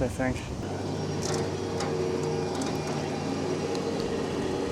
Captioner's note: machinery humming